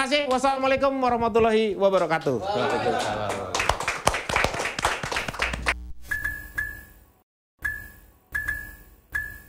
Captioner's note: applause